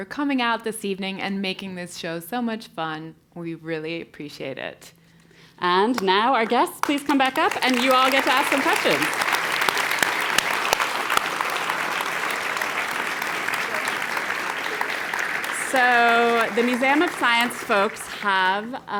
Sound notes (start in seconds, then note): 7.3 applause; 9.6 applause